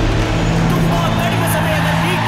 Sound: crowd Cheering

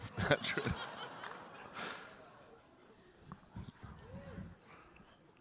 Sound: audience laughing

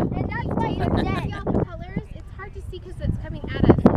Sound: laughs

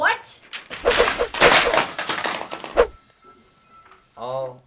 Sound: loose change, desk items crashing

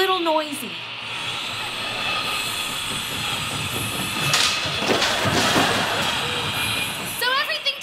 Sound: sawing

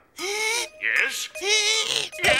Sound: gasps

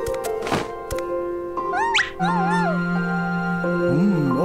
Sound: barking

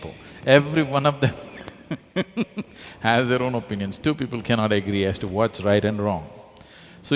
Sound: laughs

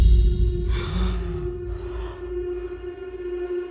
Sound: all gasping

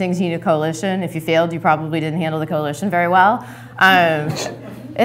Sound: laughter

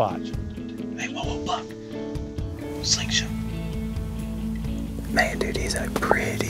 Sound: whispering

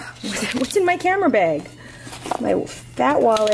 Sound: none

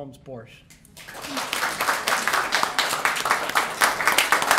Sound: applause

